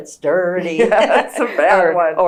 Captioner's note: laughter